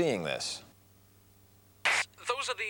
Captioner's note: transmission breaking up